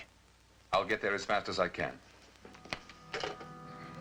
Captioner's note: phone rings